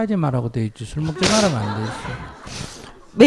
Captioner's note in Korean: 청중 웃음